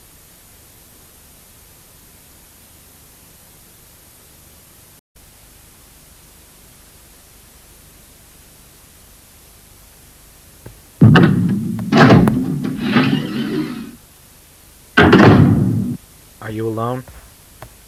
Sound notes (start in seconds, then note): 11.4 door Opens